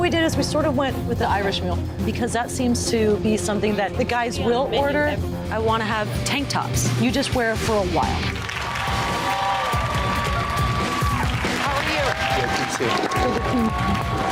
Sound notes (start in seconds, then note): 8.1 cheers and applause